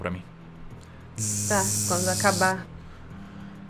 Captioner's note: tzzz